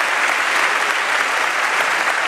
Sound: applause

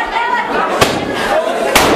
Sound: firework launches; firework explodes

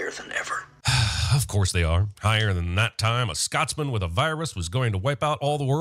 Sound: sigh

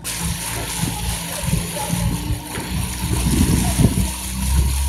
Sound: boat motor running

